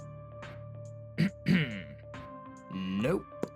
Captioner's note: clears throat